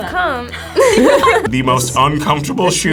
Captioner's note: both laugh